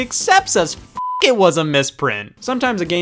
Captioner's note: beep